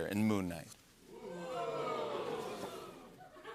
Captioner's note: audience oohs